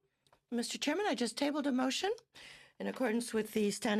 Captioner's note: speaking French